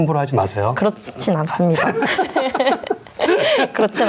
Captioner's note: both laugh